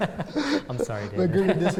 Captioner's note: laughter